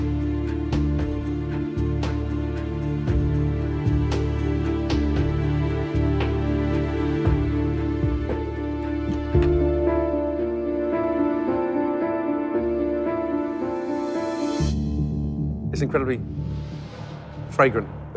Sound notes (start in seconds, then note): none